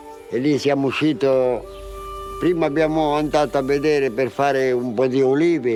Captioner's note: speaks in foreign language